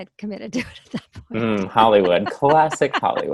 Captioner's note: laughs